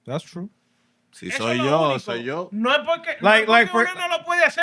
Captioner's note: non-english Speech